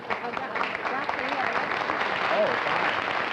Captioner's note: applause; chatter